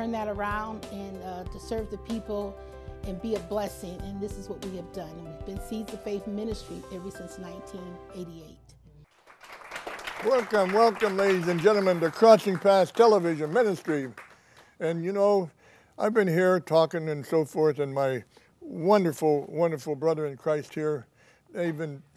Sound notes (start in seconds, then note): 9.0 applause